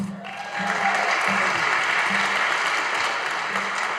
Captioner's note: audience applauding